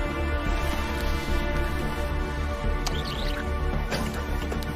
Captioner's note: soil skitters